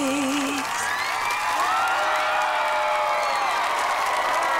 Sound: cheering

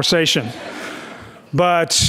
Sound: audience laughs

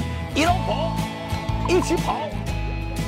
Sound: in Shanghainese

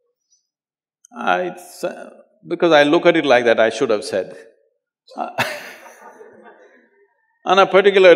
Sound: laughter

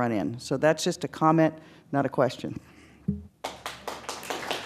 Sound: applause

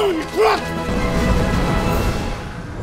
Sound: spaceship engine; music ends dramatically

